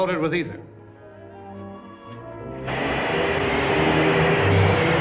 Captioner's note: gas blowing; suspenseful music